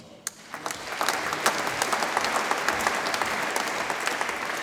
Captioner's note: audience applauds